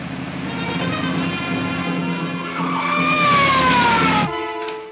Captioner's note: police siren blares